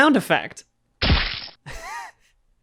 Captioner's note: terrible squishing noise